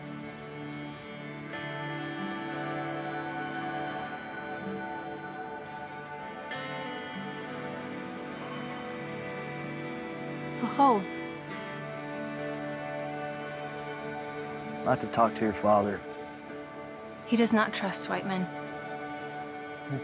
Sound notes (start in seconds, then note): 0.3 soft music; 10.4 speaks arapaho; 12.5 soft music